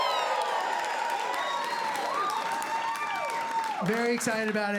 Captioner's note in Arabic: هتاف وتصفيق